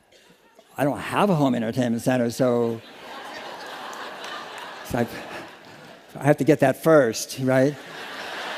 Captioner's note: laughter